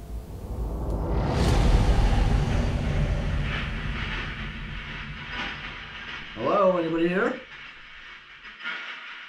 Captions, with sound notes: (air whooshing) (radio noise hissing) - Hello, anybody there?